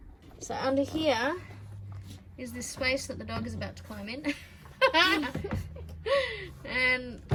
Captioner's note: both giggle